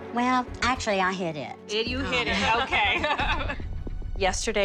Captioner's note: laugh